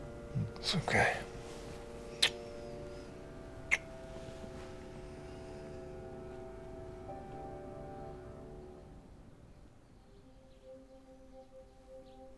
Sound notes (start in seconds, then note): 2.1 kisses